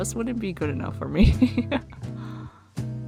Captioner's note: laughs